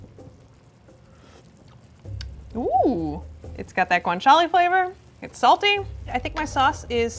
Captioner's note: slurps